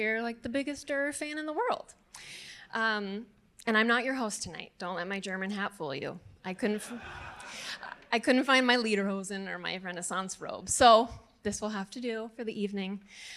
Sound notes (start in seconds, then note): 6.9 audience laughing